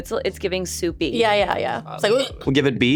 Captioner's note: puking